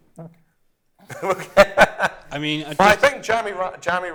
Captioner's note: laughter